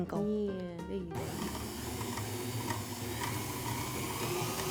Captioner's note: mixer whirs